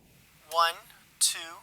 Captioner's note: voiceover